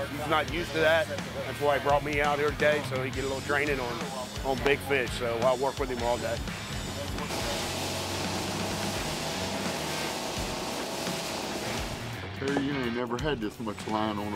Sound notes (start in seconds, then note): 7.1 boat engine roaring